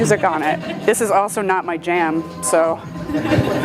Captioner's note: chuckles